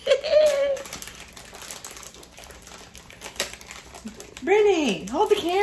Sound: laughs; package crackling

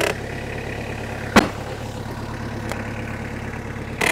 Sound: wood creaking

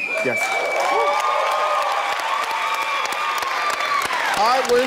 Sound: cheering

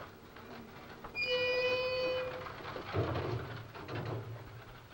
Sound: gates screeching

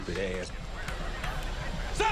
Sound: audience laughter

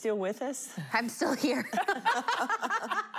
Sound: laughing

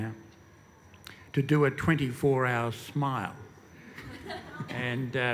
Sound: laughter

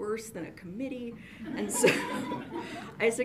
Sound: audience laughs

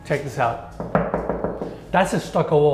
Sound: wall knocking

